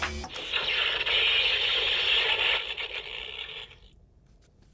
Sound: electronic blasting

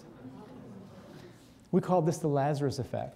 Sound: audience murmuring

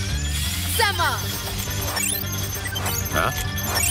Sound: beeping; whirring

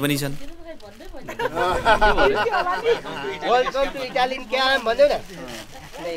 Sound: laughter

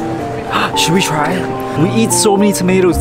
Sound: gasping

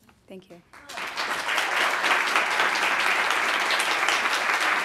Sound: audience applauding

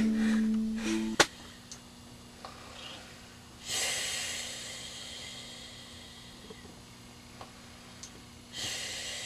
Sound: snoring

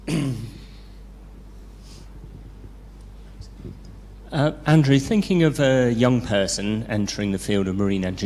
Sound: cough

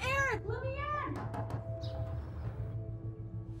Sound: knocking

